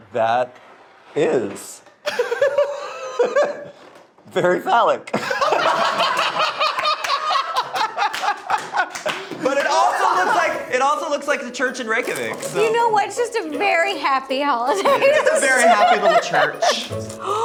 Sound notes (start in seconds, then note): 2.1 laughing; 5.1 group laughing; 17.1 gasping